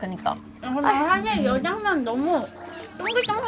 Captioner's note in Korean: 옴뇸뇸